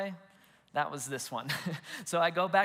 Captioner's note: chuckles